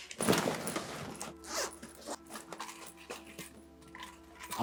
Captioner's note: packing sound